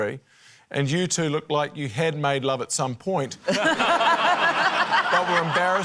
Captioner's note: laughter